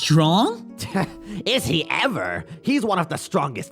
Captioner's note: scoffs